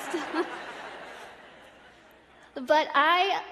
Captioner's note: laughter